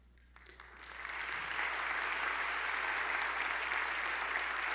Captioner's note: attendees applauding